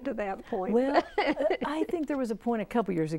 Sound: laughing

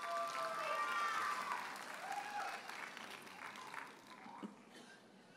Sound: audience cheers and applauds

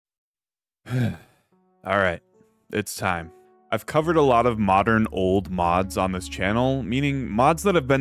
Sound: sigh

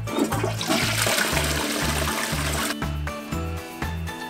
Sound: sound of toilet flush

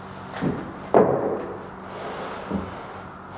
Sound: rumble

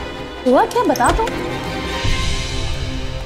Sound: door opens

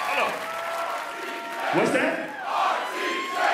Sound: crowd

